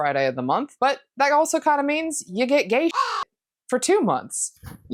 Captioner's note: caw